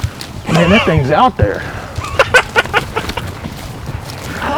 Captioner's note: laughter